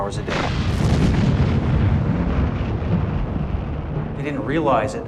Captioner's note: bomb explodes